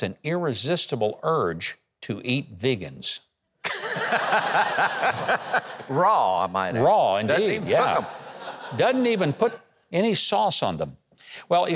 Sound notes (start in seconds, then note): 3.7 laughs; 3.7 audience laughing